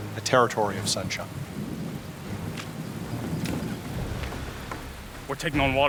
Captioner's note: heavy rain falling